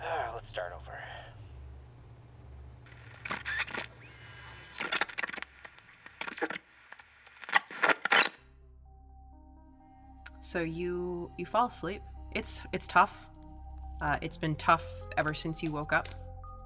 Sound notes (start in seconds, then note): 2.3 static